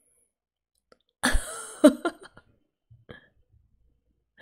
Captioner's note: laughs